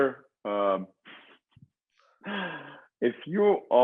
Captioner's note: chuckles